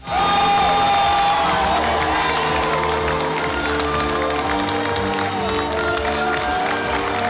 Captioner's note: audience cheers; bright music